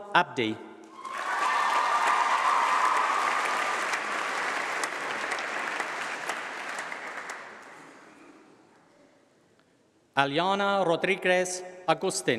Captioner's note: applause